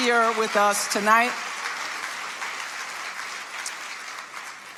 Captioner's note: audience applauding